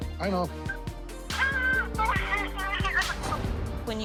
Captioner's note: crying